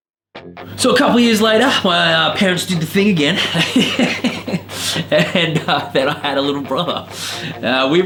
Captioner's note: laughs